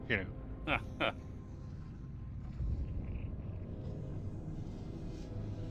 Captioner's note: laughing